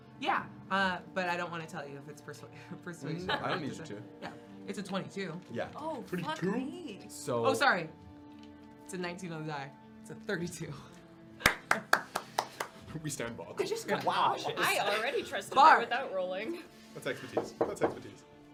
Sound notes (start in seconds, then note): 6.7 bro voice; 11.4 clapping